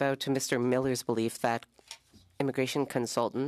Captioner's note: speaking French